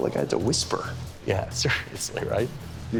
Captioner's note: laughs